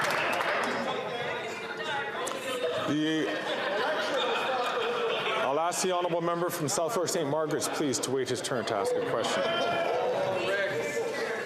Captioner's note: some Applause